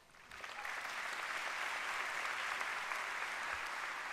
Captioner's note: applause